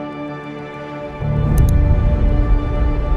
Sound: mouse click

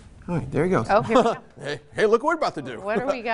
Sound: laughs

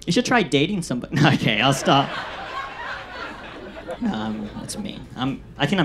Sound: audience laughs

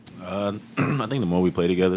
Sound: clears throat

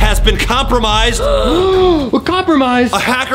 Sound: all gasping

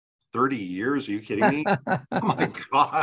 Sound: laughs

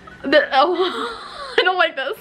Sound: laughs

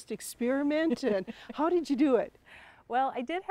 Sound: laughs

